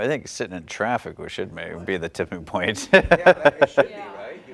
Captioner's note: laugh